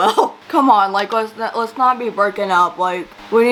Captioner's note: laughs